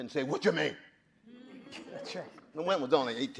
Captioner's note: audience laughing